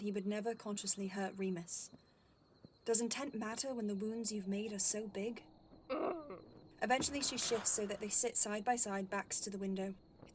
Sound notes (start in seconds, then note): 5.9 Lily groans